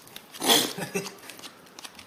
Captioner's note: MONK snickers